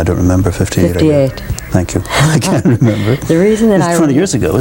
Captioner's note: laughter